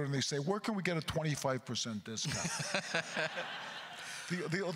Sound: laughs; audience laughter

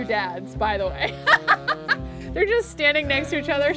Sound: laughs

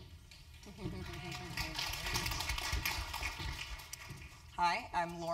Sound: applause

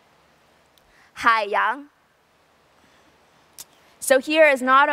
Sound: mandarin

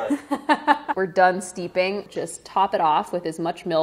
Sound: laughs

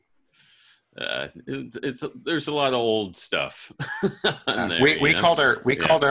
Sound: laughs

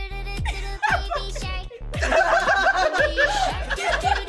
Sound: all laugh

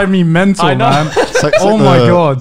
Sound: laughing softly

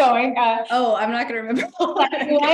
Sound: laughs

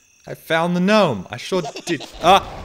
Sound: gnome laughs

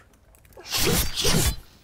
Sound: slice slice

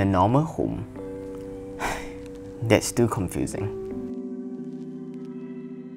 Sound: sigh

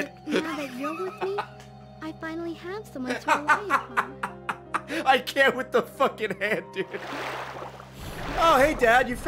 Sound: laughs

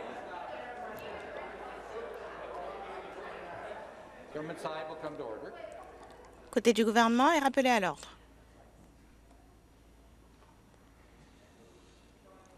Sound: crowd Noise

